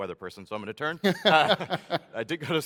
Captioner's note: laughs